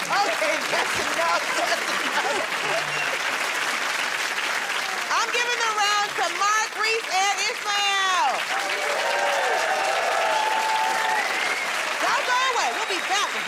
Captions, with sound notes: -Okay, that's enough. That's enough. [ Applause ] I'm giving the round to Mark, Rhys, and Ismael. [ Cheers and applause ] Don't go away. We'll be back with more